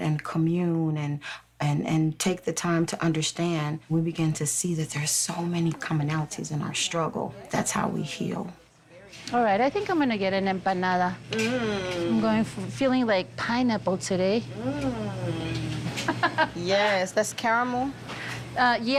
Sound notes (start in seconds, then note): 15.9 laughs